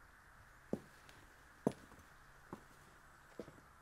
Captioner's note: footsteps clomping